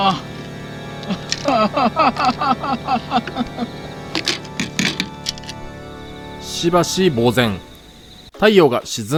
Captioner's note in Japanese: 竿を抱え、呆然と笑う・・・